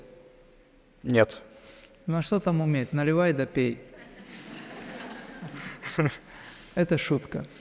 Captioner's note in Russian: смех